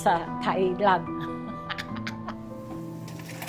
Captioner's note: chuckles